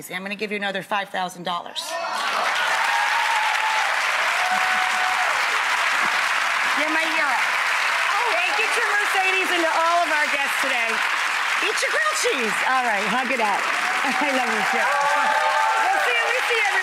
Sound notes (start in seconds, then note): 1.9 applauding; 1.9 cheering; 14.9 cheering